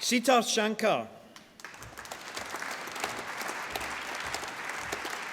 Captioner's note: applause